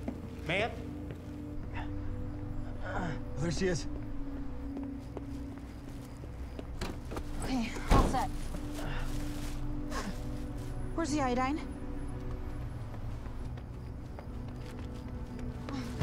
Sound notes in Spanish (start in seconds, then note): 1.4 Gimiendo; 11.8 Pasos acercándose